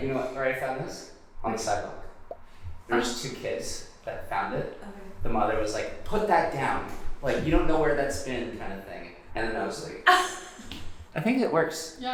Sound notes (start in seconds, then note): 10.0 laughing